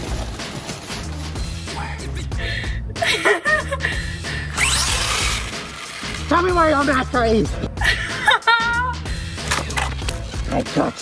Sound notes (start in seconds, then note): 2.9 laughs; 4.5 RC car whizzes; 7.8 laughs